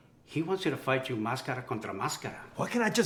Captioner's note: Spanish